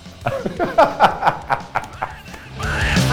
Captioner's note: laughter